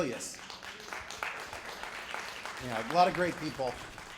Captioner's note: applause